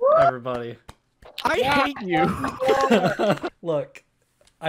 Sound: clapping; laughs

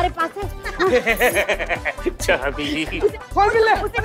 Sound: laughing

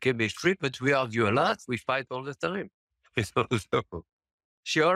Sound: laughs

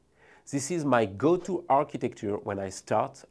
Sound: text whooshing

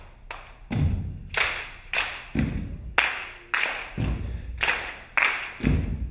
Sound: rhythmic foot stomping and clapping; feet stomping

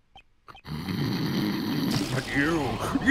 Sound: snarling

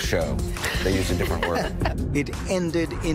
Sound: laughter

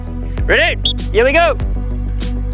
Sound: whistles

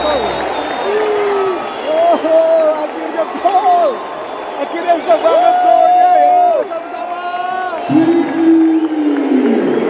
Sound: clap

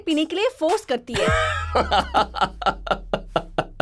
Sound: laughs

